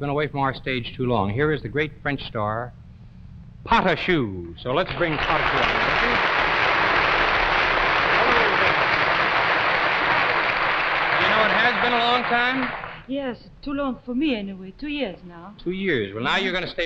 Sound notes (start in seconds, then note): 6.0 audience applauds